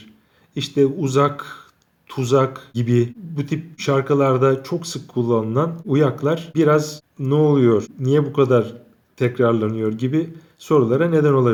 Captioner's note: in Turkish